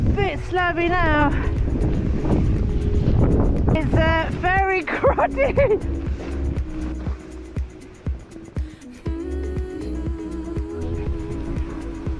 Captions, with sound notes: This bit slowed me down. It's uh, very (laughing) crowded.